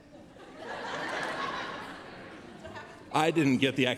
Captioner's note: laughter